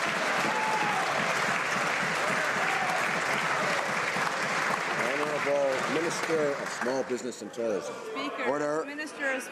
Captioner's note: some Applause